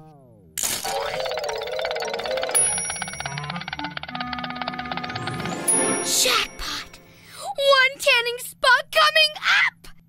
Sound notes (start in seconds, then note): 0.6 spinning clatter; 0.9 bell chimes